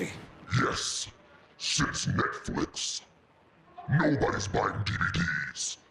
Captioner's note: monstrous voice